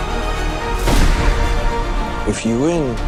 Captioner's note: dramatic music continues; gun shots